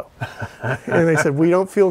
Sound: laughing

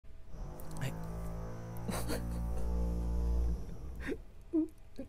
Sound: drill sounds

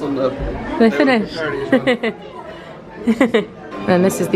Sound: laughs

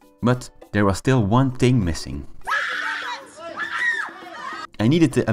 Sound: scream montage

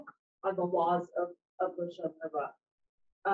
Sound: speaking in foreign language

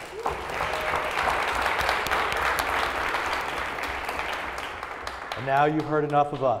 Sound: applause

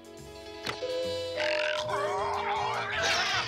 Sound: doorbell ringing; yelling

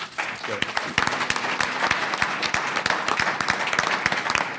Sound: audience applauding

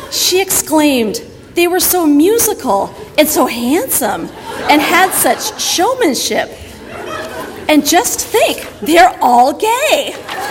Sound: audience laughter

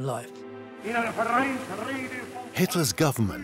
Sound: speaking German

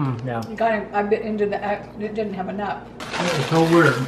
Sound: stammers

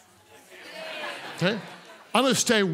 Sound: congregants laugh

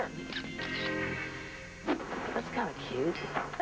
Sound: camera shutter clicks

